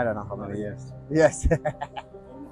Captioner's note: laughing